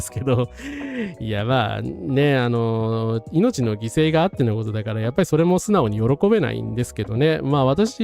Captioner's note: laughs